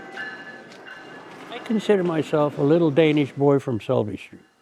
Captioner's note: passing commuter trains